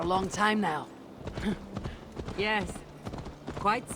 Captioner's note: laugh